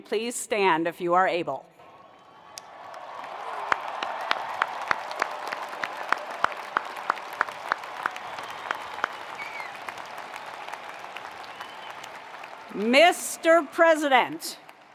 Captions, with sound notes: please stand if you are able. (attendees applauding) (attendees cheering) Mr. President,